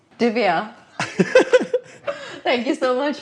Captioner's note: laughing